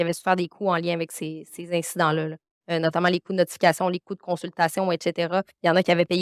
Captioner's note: continues speaking French